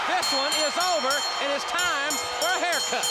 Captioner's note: bell ringing